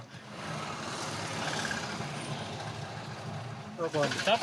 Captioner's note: car engine revving; speaking in foreign